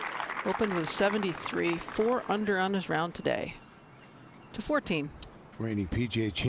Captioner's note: applause